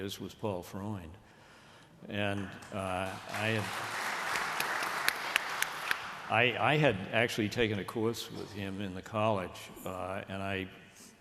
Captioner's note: applause